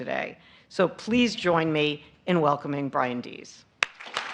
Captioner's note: applause